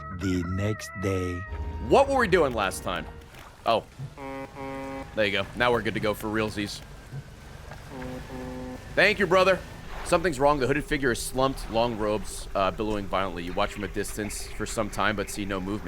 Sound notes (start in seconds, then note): 4.0 honk honk; 7.8 distant honk honk